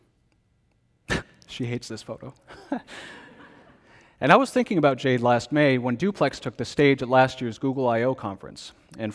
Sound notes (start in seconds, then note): 2.6 congregation laughs; 2.6 laughs